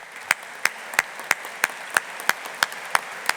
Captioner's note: audience applauding